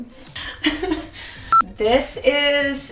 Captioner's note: laughs